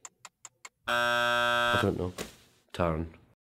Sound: buzzer

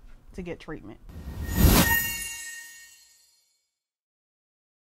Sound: chime ringing

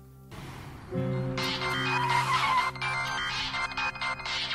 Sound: phone ringing

